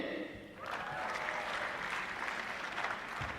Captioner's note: applause